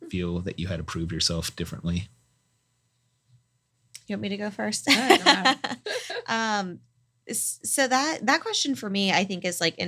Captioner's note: laugh